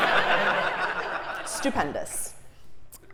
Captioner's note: laugh